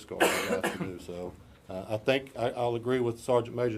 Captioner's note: voice drowned out by coughs